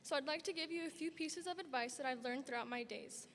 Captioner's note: none